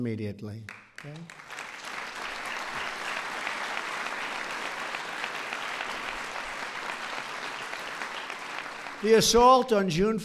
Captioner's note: applause